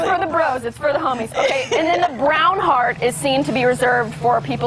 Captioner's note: laughter